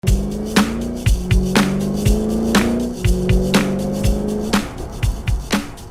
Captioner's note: car revving; upbeat music